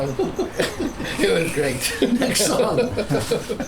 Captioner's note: laughing